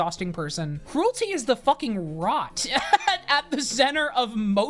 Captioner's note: laughs